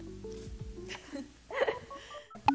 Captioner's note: laughs